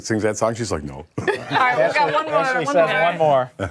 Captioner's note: laughter